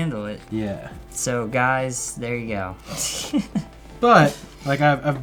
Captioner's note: laughs